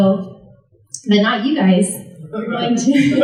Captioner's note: laughter from the audience